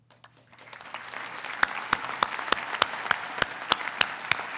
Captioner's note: congregation clapping